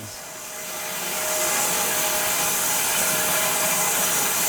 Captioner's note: saw whirs